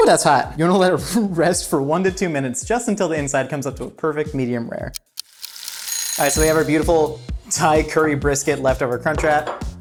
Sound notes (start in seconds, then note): 5.0 pan sizzling; 5.2 alarm clock ringing